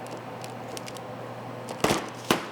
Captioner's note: fridge humming; paper rustles; bonbon crackles; knife thuds